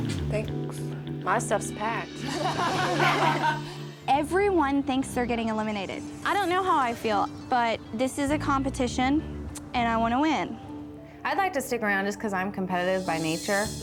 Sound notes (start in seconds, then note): 2.2 daters laughing